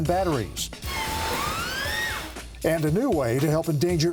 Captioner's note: orcas screeching